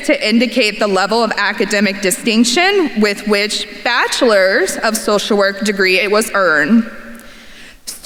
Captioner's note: none